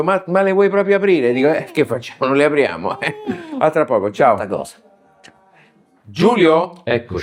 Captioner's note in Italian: risate